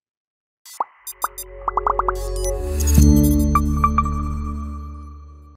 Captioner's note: electronics popping and beeping